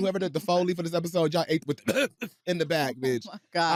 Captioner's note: coughs